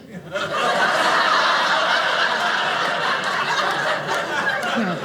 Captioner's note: audience laughing